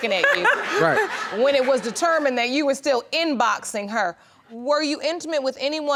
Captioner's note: laughing